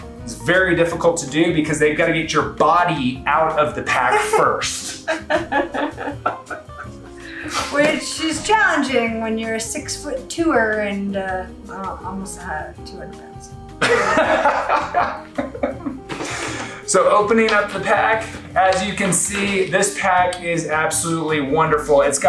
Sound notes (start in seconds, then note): 3.8 both laugh; 13.8 laughs